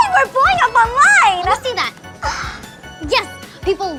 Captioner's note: gasp